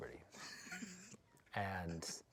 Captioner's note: laughs